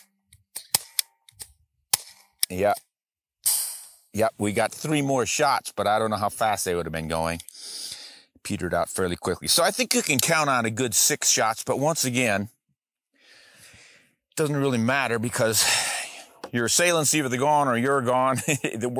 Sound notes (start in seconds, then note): 0.1 two shots fired; 3.1 hissing